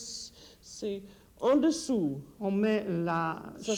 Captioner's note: conversing in French